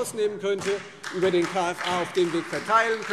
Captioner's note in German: Beifall Freie Demokraten und SPD